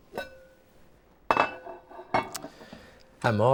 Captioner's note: pot lid clanking